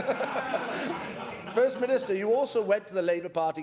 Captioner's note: laughter